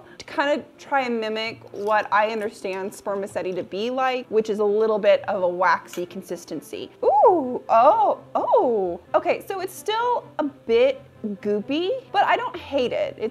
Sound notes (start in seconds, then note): 7.2 exclaiming in surprise